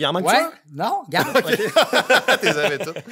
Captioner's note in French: rires